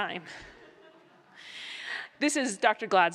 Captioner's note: laughter